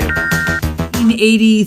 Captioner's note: computer beeps